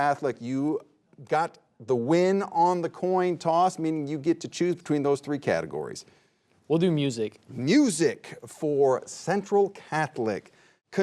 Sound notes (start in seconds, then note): none